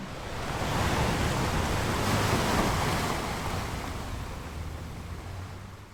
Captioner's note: big waves crash on shore